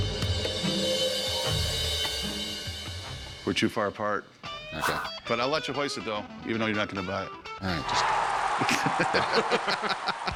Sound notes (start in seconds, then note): 8.0 cheering; 8.4 laughter